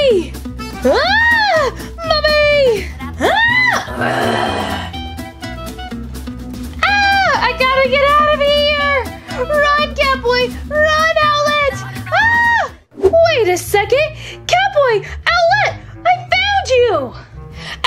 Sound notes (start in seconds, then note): 3.3 Gekko Screams; 3.8 Mummy Snarls; 12.1 Gekko Screams